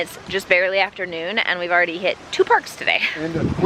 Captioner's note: laughs